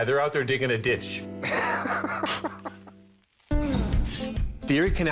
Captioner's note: laughs